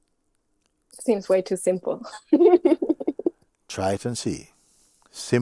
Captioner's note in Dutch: lacht